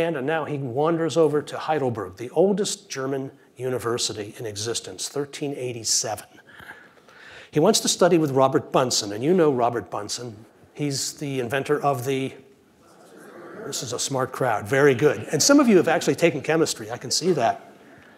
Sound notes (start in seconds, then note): 12.9 audience responds